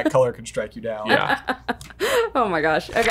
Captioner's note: laughing